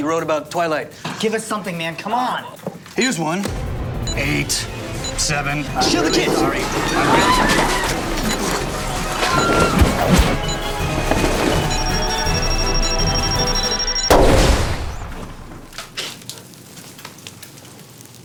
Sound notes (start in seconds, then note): 5.8 cries and shrieks; 12.7 beeping